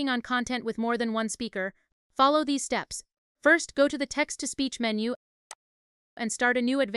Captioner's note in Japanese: テキスト読み上げ